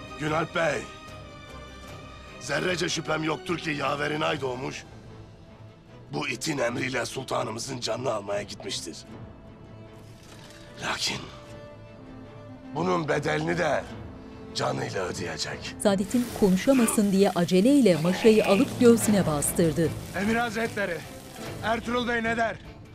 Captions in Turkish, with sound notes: Günalp Bey, zerrece şüphem yoktur ki yaverin Aydoğmuş… …bu itin emriyle sultanımızın canını almaya gitmiştir. Lakin bunun bedelini de canıyla ödeyecek. (Et dağlama sesi) (İnleme sesi) Emir Hazretleri, Ertuğrul ne der?